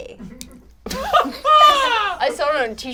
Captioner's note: all laugh